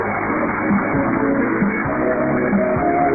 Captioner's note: applause